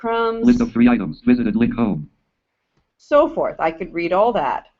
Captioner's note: JAWS speaking